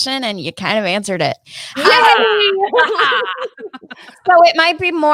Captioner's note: laughing